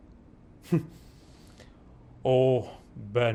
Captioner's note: chuckling